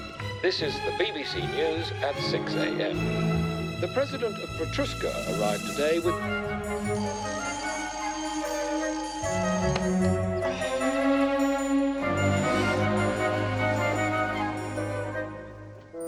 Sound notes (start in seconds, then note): 6.8 alarm clock ringing; 10.6 dramatic music continues